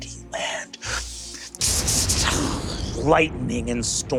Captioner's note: mimics electricity sparking